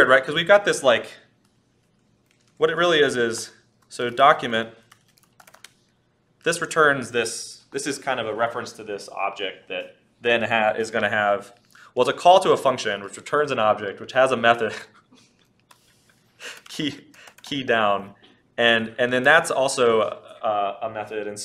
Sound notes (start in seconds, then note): 15.1 laughs